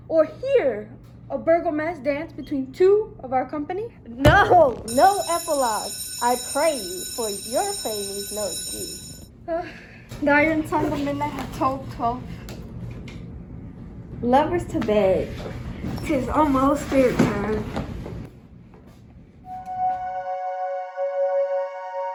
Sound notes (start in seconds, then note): 4.8 bell ringing; 19.6 calm ambient music